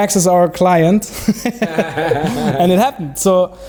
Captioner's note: laughing